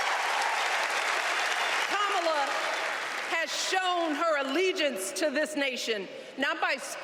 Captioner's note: cheers and applause